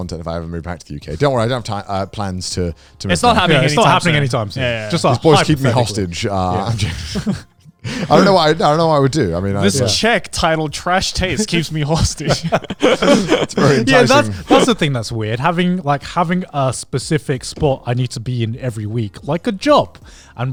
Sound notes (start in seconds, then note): 7.8 laughs; 11.1 laughing